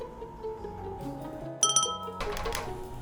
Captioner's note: ding ding